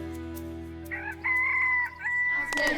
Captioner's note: rooster crowing